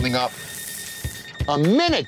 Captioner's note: alarm beeping